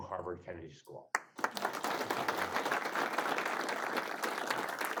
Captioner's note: audience applauds